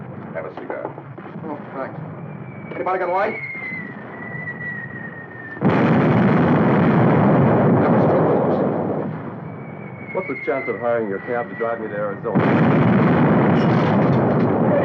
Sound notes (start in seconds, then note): 5.6 explosion booming; 12.6 explosion booming